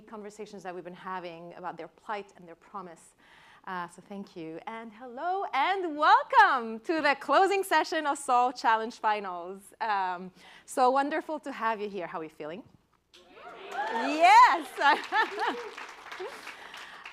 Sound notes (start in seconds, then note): 13.2 cheering; 13.3 laughs